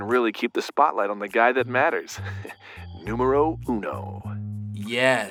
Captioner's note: chuckles